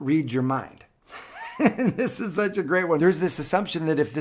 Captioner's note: laughs